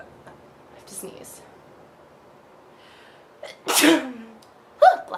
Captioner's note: sneezes